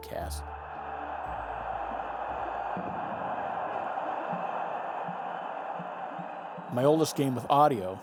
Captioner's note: crowd cheering